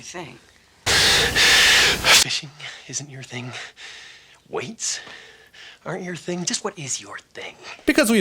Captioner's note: breathing intensifies